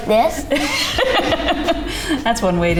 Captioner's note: laughs